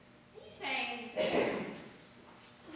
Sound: clears throat

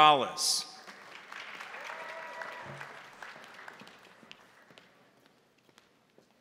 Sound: crowd applauding; crowd cheering

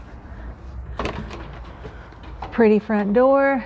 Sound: door opening

